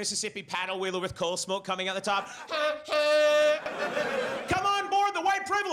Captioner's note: imitating honking